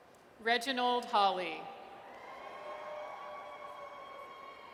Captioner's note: audience cheers